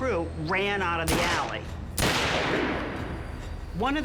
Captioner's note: gun shots